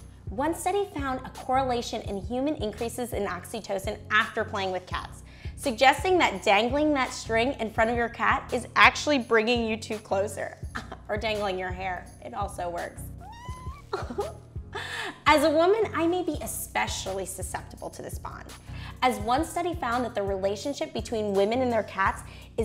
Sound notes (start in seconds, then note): 13.2 cat crying; 13.4 laughing